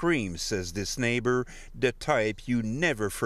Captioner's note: speaking FRENCH